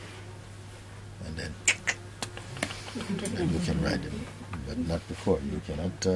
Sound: makes riding sound

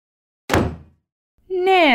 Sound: slam!

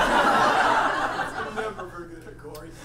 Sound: audience laughs

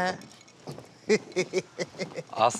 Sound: chuckles

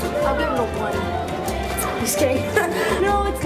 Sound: laughs

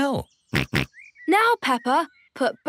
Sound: snorts

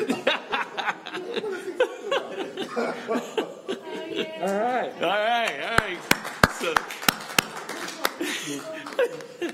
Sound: laughter

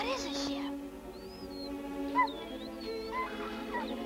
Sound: Shep whining

